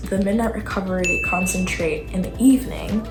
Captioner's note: chime